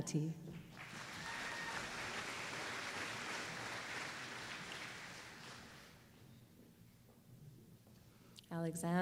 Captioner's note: applause